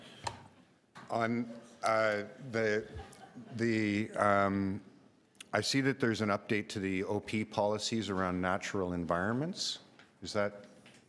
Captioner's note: laughing